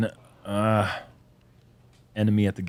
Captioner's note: sighs